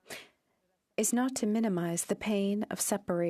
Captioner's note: speaking French